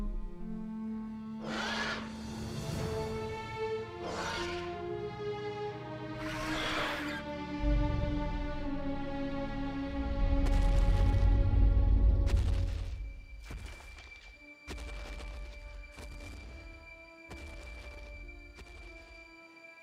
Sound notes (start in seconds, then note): 0.9 dinosaur roar; 9.9 footsteps